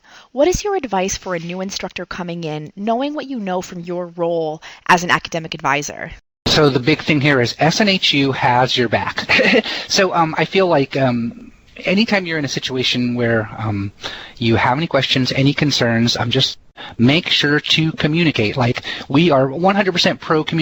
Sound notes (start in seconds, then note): 9.1 heh heh